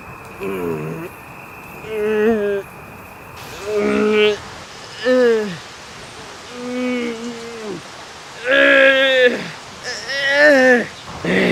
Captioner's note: Taran groaning hard